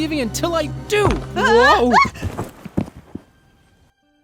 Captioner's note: both scream